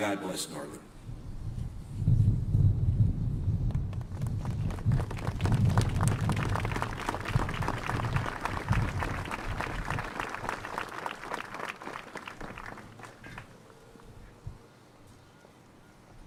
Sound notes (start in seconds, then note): 3.8 clapping